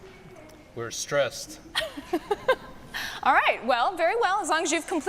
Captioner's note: laughing